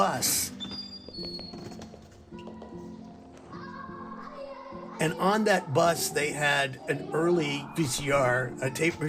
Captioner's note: soundbite of bus door opening and footsteps